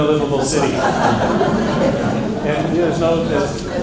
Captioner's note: laughter